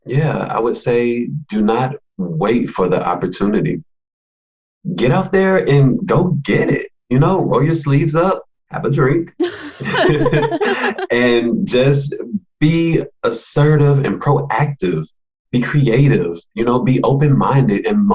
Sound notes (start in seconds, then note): 9.4 all laugh